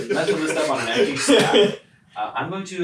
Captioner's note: all laugh